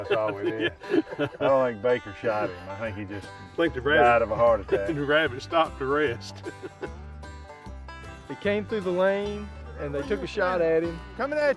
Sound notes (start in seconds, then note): 0.0 laughs